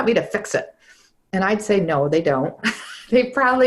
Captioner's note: laughs